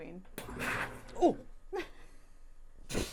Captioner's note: Sodastream fizzing